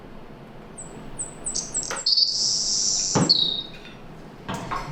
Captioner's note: Savannah Sparrow song